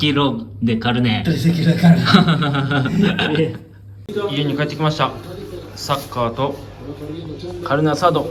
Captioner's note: laughs